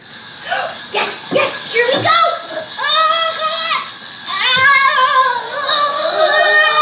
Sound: grunts

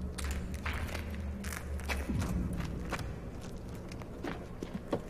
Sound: steps

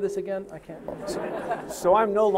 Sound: audience laughing

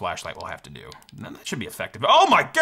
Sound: button clicking

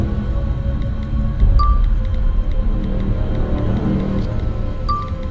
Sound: phone typing and notifications

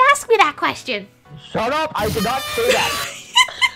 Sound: earrape

